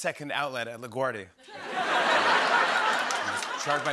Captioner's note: laughter